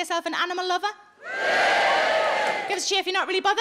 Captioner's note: audience cheering